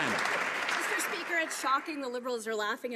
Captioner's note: some Applause